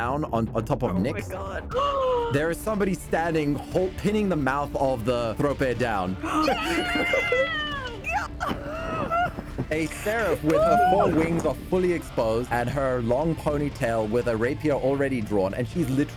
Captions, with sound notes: on top of Nyx, there is somebody standing, pinning the mouth of the thrope down. (all cheering) A seraph with her four wings fully exposed and her long ponytail with a rapier already drawn and she's literally